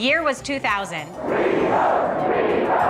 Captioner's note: chanting